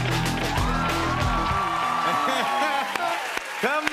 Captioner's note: cheers and applause